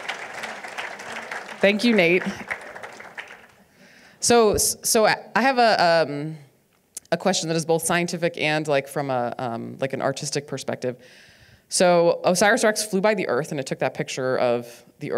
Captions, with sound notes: (audience applauding) - Nate, oh, there he is. Thank you, Nate. So I have a question that is both scientific and from an artistic perspective.